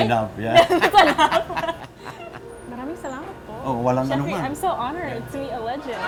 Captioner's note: laughs